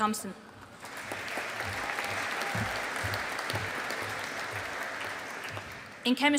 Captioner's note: audience applauding